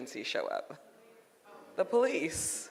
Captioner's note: audience murmurs